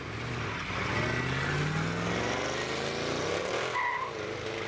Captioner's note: engine blaring; tires screeching